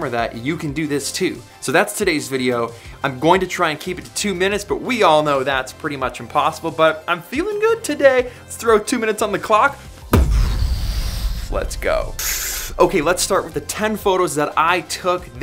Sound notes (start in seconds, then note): 10.1 imitates explosion